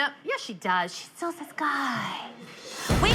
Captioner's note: whispering